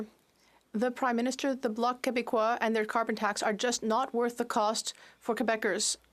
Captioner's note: speaking French